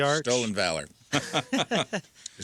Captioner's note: laughing